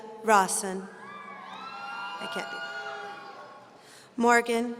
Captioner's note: audience cheering